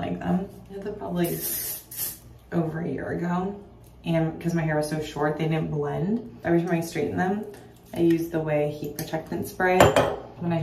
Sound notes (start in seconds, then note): none